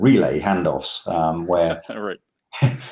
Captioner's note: laughs gently